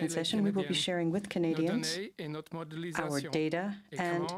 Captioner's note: speaking french